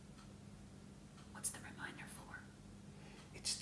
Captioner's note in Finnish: whisper